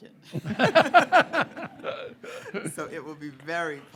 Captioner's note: group laughing